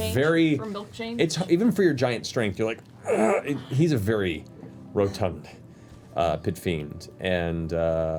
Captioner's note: grunts